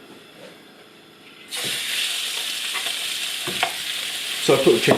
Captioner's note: sizzlin